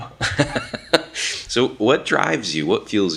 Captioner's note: laughs